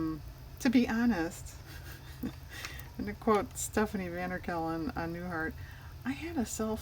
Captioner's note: laughs